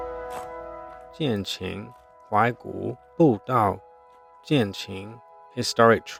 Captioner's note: speaking Chinese